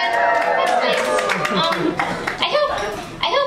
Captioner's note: cheers